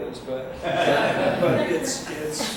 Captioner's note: audience laughs